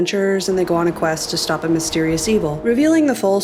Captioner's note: wind swooshing